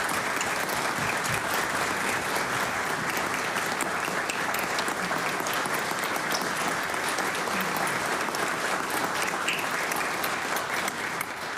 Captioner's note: applause